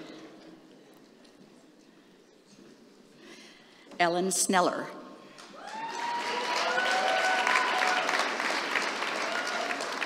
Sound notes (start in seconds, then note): 2.1 applause